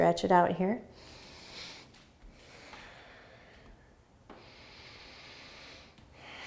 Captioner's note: breathing